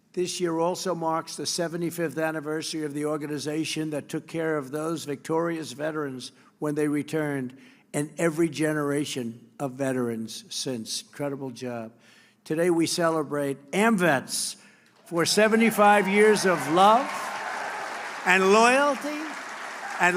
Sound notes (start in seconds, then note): 15.0 applause